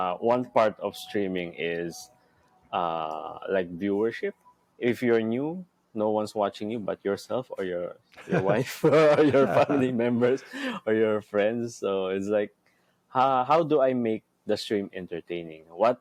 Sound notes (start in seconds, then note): 8.2 laughs